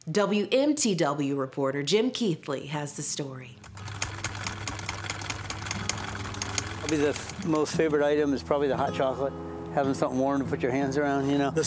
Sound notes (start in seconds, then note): 3.6 film reel rolling